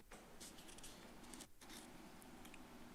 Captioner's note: rustles